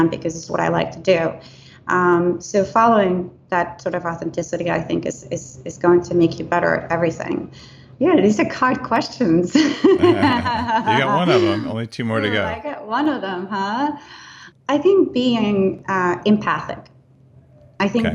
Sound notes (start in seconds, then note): 9.5 laughing